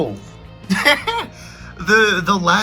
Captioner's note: laughs